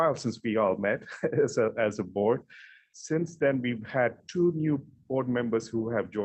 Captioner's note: chuckling